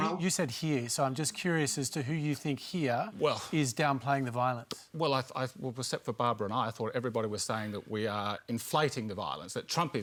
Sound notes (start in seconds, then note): none